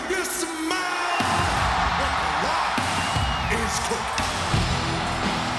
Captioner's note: announcer speaking faintly off mic; crowd cheering; upbeat music